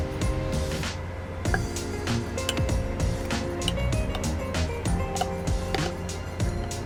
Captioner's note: gentle upbeat music; spoon tapping